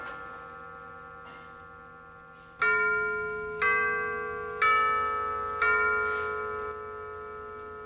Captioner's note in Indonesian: Suara jam berdentang